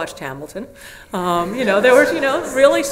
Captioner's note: audience laughs